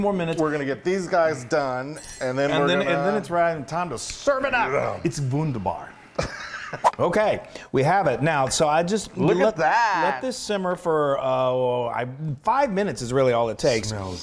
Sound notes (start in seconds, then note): 6.2 laugh